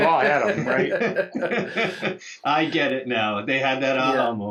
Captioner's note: everyone laughs